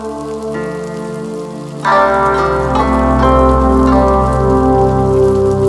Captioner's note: fry pan sizzle continues